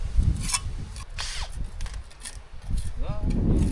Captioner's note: wind blowing